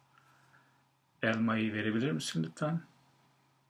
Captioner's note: non-english speech